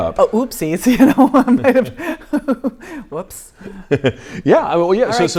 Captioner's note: laughing